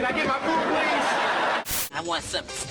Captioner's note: laughter; static